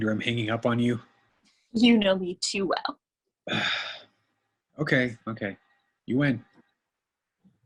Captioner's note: sighs